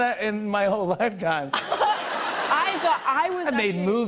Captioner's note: laughter